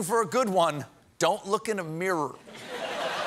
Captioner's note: laughter